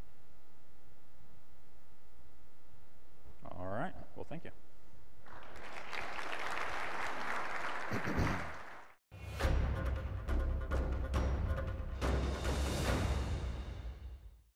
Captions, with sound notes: All right. Well, thank you. (audience applause) (dramatic music)